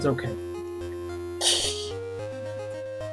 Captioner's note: laughs softly